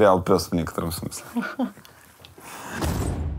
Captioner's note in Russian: смеётся